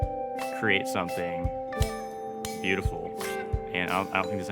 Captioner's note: metal clinking